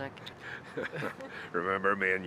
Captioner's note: all laughing